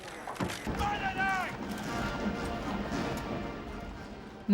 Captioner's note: man shouts